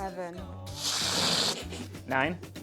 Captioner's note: fart Sound